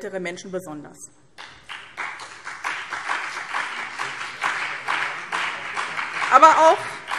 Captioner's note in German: Beifall BÜNDNIS 90/DIE GRÜNEN und vereinzelt CDU